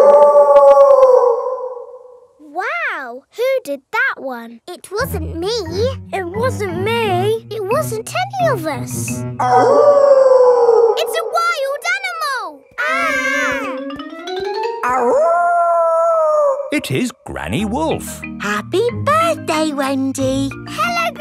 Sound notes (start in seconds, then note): 0.0 wolf howling loudly; 9.4 wolf howling loudly; 12.7 kids yelling; 14.9 howling